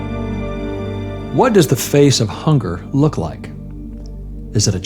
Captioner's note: voice-over